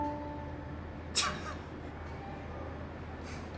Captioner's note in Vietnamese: cười